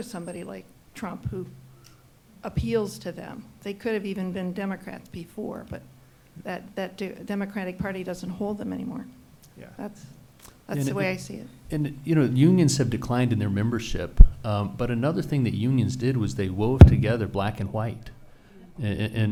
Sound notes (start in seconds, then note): none